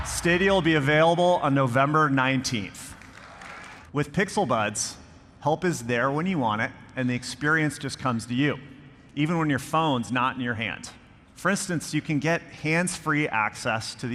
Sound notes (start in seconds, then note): 2.8 audience clapping